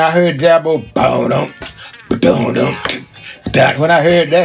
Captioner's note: imitates heavy drum beat